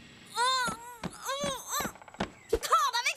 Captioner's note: muffled protests